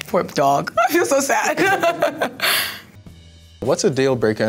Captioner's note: chuckles